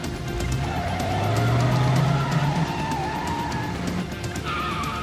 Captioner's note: car screeches